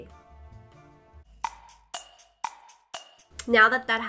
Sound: clock ticking

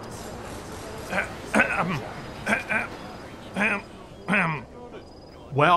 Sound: clears throat

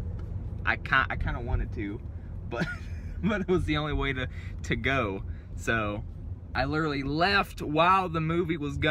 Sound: laughter

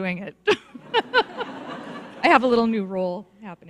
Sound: audience laughs

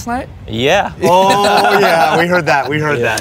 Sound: laughter

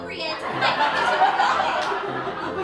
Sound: laughter

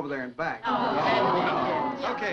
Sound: all chattering

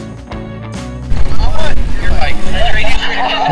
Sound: laughing

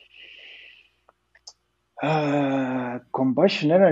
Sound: sighs

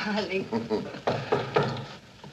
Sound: knock on door

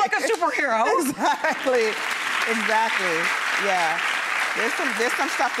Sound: clapping

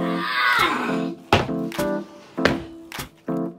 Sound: groaning

